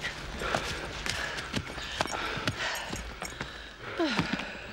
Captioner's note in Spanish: respiración fuerte